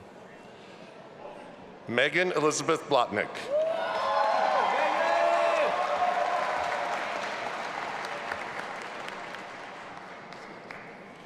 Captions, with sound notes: - Megan Elizabeth Blotnick. (audience applauding and cheering)